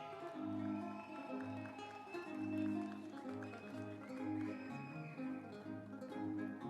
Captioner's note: whistling; instrumental music